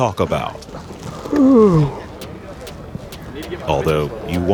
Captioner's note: yawning